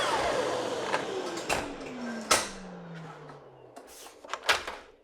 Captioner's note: saw clicking